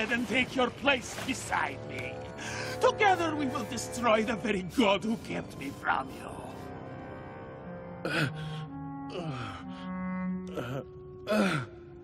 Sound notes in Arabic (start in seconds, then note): 8.0 يئن